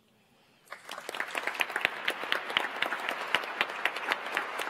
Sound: audience applauds

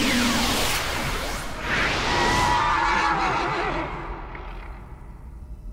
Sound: neighs

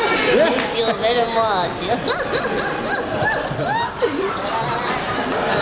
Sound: audience laughing; laughs

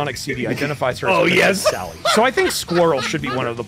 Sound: laughter

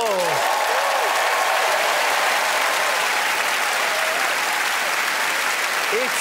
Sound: cheers and applause

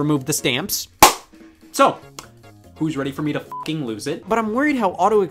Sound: beep

